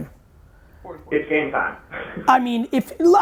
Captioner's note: laughs